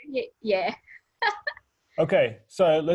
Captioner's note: laughing